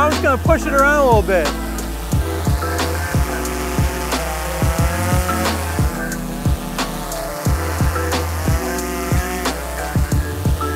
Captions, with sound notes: So I'm just going to push it around a little bit. (drone buzzing)